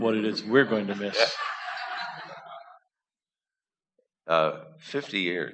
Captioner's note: laughter